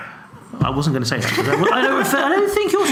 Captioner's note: laughs